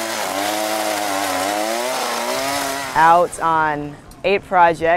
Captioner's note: chain saw